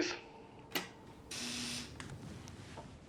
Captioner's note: door buzzer sounds